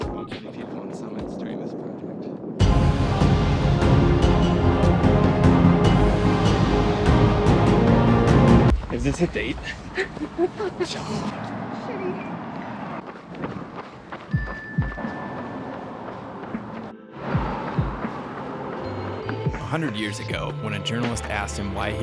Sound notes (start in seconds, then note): 2.6 dramatic music; 9.8 laughs; 14.5 bell dings; 18.8 chiming music